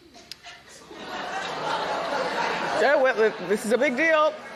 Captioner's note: laughter